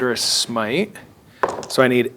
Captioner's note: dice rolling